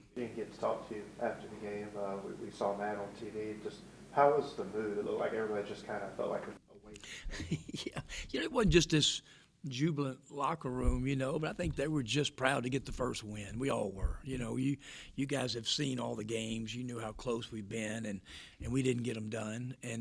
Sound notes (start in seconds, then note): 7.0 laughs